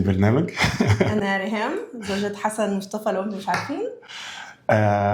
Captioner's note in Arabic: شهيق; تنهّد